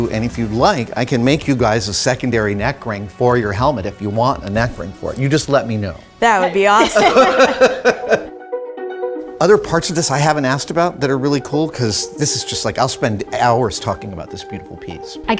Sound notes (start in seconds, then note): 6.8 Adam laughs